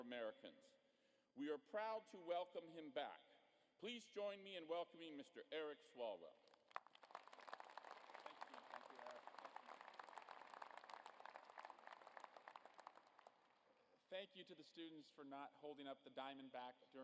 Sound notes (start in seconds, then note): 12.0 applause